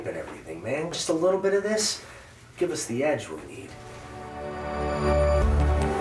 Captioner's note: none